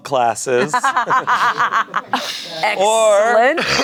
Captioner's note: everyone laughs